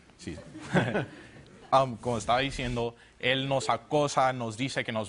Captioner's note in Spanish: Risas